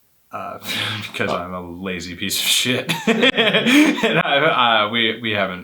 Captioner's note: laughs